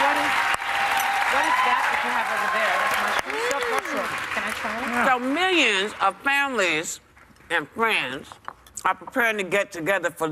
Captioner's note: cheers and applause